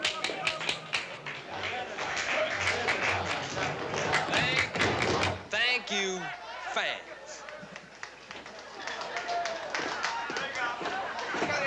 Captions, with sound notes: [applause] THANK YOU. THANK YOU...FANS. [sporadic applause]